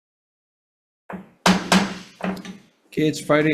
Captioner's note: gavel banging